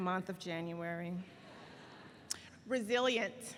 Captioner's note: laughing